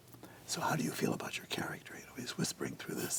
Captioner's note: whispering